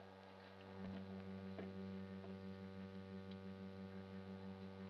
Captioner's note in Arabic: خطوات